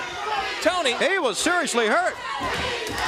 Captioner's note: crowd cheering